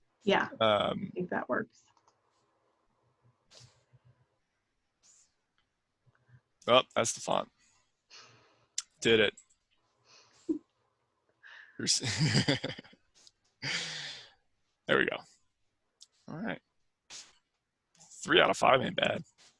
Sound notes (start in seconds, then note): 12.0 laughs